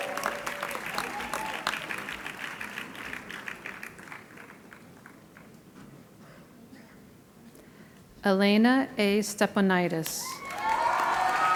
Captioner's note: applause